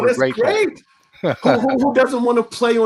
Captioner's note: laughs